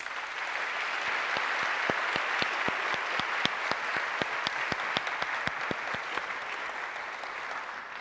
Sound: applause

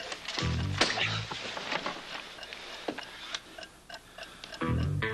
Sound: dialing

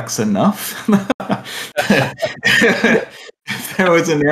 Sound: laughter

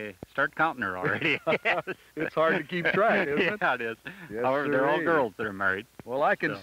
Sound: laughing

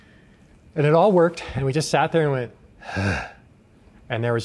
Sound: groaning

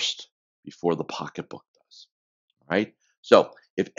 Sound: speaks faintly

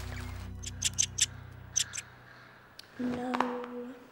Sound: rat squeaking

